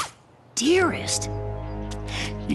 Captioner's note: whisper